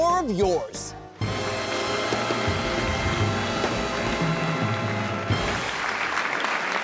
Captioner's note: intense jazz music; audience applauding